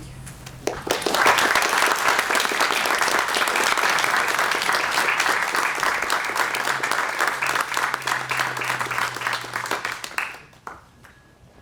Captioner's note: applause